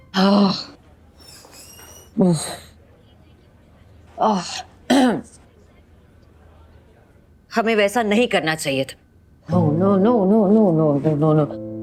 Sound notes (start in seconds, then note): 0.1 frustrated sigh; 4.9 clears throat